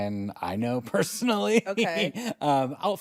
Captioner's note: laughs